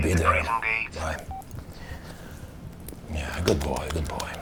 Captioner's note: cellphone beeping